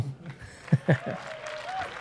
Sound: chuckles

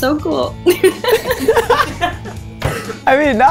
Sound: laughing

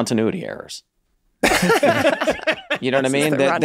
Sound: laughs

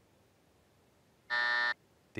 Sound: buzzer

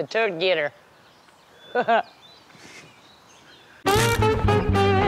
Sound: chuckles

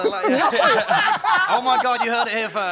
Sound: all laugh loudly

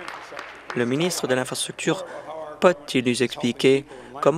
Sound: applause

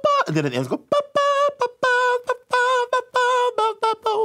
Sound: vocalizes

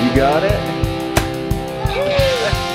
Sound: happy rock music; nailgun sound

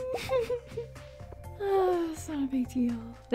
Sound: giddy laughter

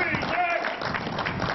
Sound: applause

